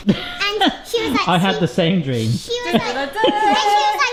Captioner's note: laughs; laughs